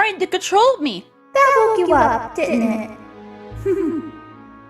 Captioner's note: giggles